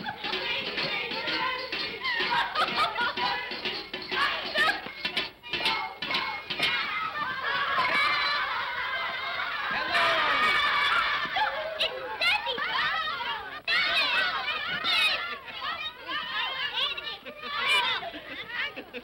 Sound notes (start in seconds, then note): 0.0 children giggling; 1.9 giggling & laughter; 7.3 children laughing; 10.3 children clamor; 14.3 children clamoring